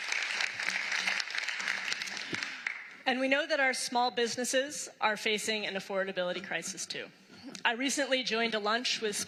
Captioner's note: applause